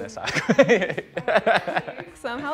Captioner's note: laughter